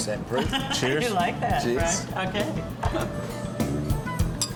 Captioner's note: laughs